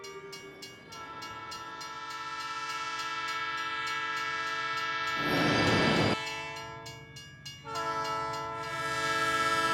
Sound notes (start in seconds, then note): 2.7 train hissing